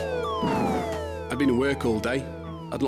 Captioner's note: alarm blaring